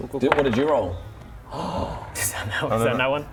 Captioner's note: gasp